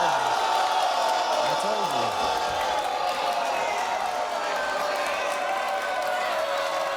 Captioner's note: audience yelling